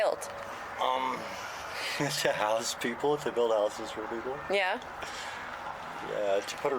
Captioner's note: laughs